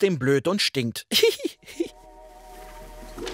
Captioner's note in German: Durchtriebendes Kichern